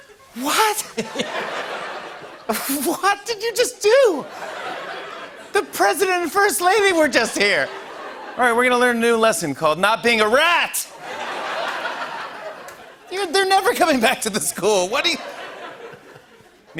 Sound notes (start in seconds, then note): 3.9 laughter; 14.9 laughter